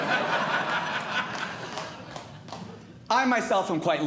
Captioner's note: audience Laughing